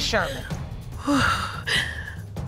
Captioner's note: continues panting